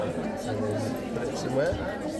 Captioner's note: crowd chattering